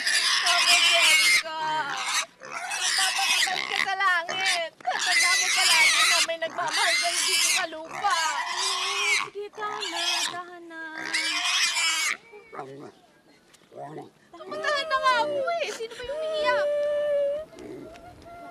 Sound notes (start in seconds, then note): 17.1 boy crying